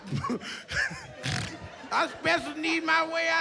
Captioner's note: laughs